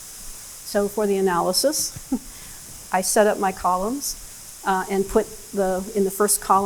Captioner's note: laughs